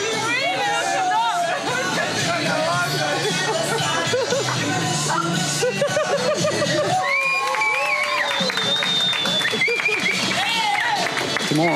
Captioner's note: laughing